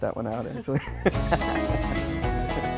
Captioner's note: laughing; lively music